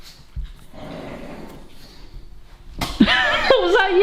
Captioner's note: dog growls; laughs